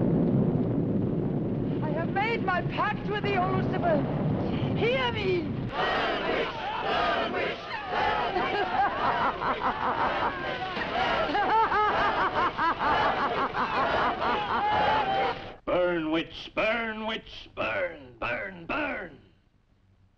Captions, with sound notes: - I have made my pact with thee, O Lucifer. Hear me! - [Crowd] Burn, witch. Burn, witch. (Elizabeth laughing) Burn, witch. Burn, witch. Burn, witch. Burn, witch. Burn, witch. Burn, witch. Burn, witch. Burn, witch. - "Burn, witch. Burn, witch. "Burn, burn, burn."